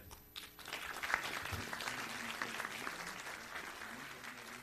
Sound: audience applauding

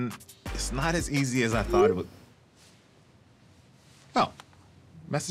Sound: phone chimes

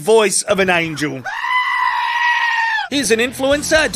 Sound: scream

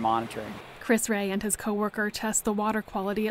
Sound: voiceover

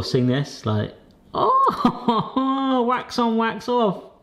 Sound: laughing

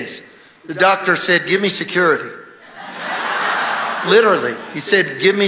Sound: congregation laughing

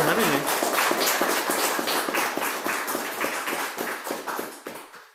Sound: applause

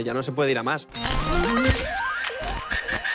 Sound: electronic noises

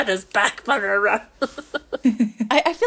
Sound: laughing

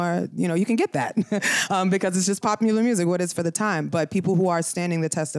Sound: laughter

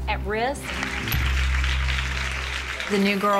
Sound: applause

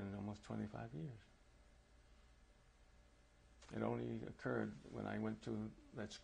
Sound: pauses for 3 seconds

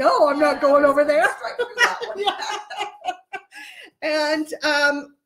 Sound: laughing

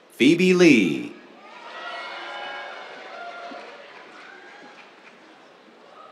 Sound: cheers, applause

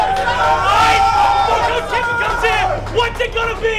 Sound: team cheering

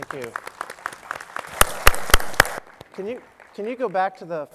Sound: applause

